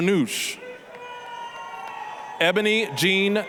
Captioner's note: applause, cheering